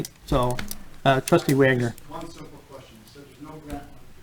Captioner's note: voice fades